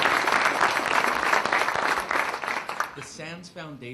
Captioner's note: applause